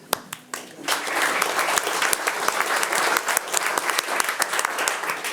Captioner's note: attendees applauding